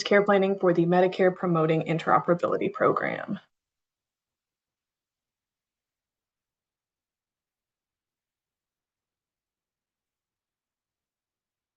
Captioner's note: pause